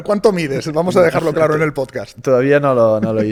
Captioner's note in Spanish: risas